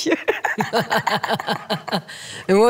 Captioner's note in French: rires